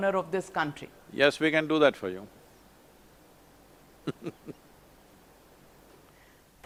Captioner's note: laughs